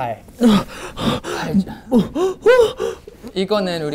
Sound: out of breath

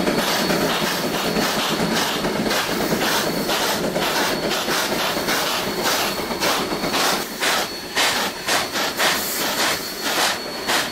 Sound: rapid chugs from rotary

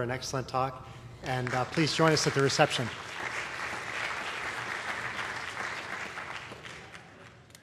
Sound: applause

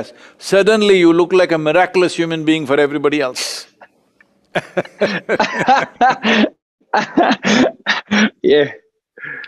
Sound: both laugh

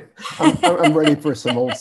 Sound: both laugh

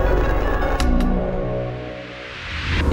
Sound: slides clicking; static whooshes

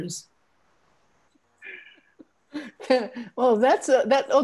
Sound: all laughing

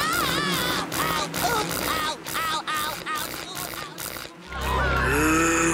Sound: screaming

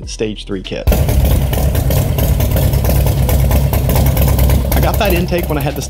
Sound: engine running

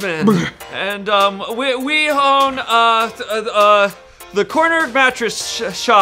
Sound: stuttering

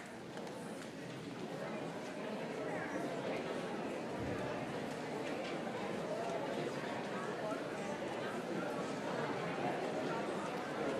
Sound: crowd sounds

